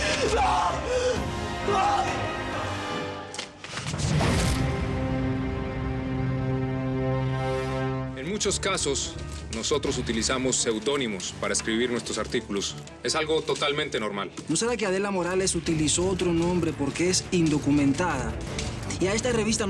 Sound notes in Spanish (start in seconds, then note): 1.6 ¶ música con fondo coral ¶; 8.4 ruido al entrar